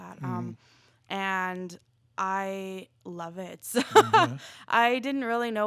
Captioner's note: laughs